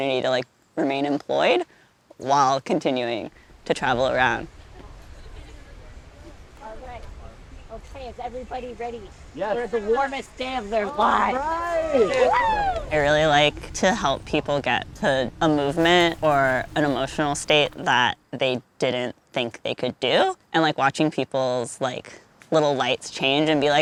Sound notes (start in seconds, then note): 5.5 distant chatter; 9.5 excited cheering